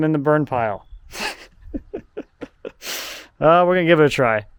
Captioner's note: chuckling